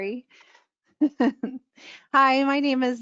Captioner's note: laughs